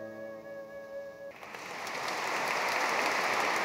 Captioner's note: applause